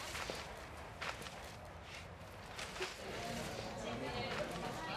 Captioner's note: Beszélgetés